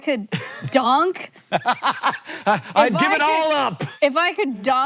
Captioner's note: laughing